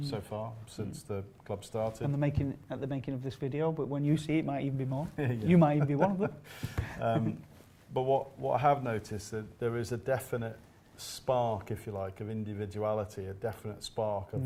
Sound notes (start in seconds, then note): 5.8 laughing